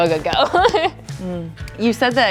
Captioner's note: chucles